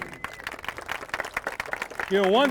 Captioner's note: applause